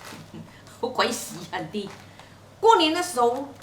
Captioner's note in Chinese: 廣東話